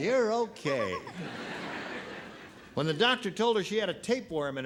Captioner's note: laughter